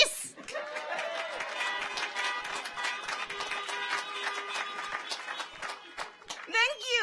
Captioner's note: audience laughs; audience applauds; car horns honking